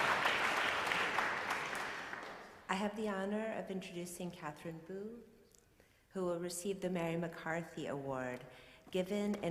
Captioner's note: applause